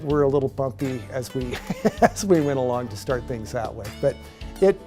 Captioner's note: laughing